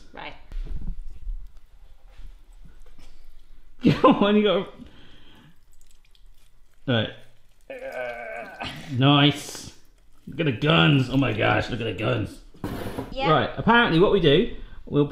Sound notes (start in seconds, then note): 3.1 laughing; 7.6 grunting